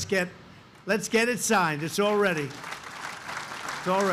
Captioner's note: applause